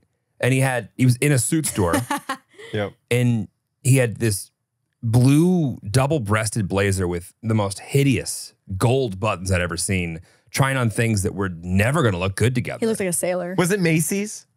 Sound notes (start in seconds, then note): 1.6 laughs